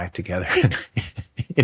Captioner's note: laughs